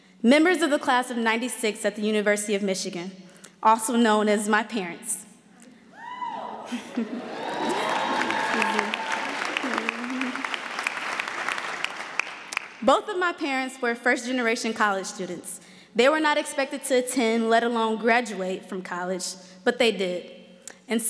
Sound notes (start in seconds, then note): 6.0 woman shouts; 7.2 audience cheers and applauds